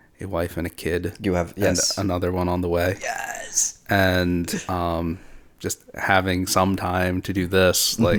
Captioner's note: ᵖʳᵒᵘᵈ ᵘⁿᶜˡᵉ ⁿᵒⁱˢᵉˢ